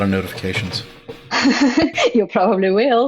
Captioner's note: laughs